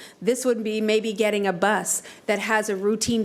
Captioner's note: none